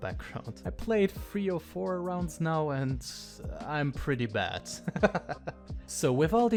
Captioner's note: laughs